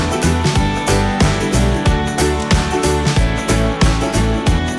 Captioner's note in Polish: Aplauz